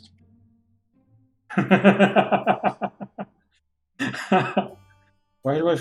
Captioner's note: laughs